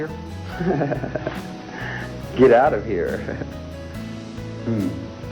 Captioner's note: laughs